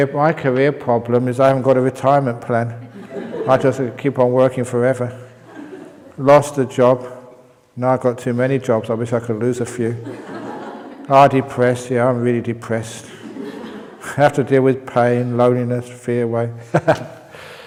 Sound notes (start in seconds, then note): 5.4 laughs; 10.0 laughter; 13.4 laughter